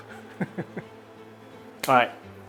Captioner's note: laughs